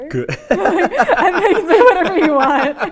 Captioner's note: laughing